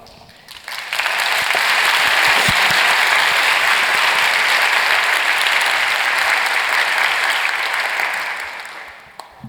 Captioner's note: applause